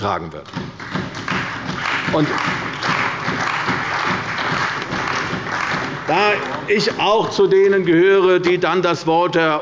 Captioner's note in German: Beifall bei der CDU und bei Abgeordneten der FDP